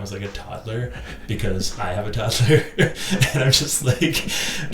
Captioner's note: laughing